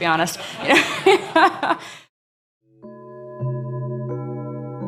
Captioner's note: laughing